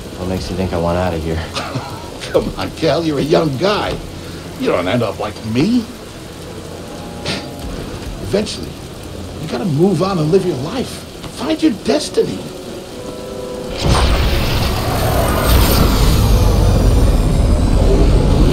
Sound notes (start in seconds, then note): 1.4 laughs